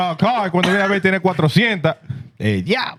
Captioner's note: speaking Spanish